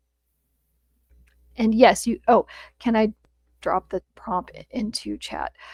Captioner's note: none